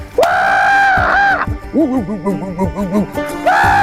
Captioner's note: screams